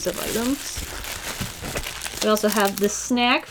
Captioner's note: bubble wrap bag rustling